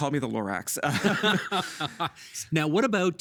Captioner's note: both laughing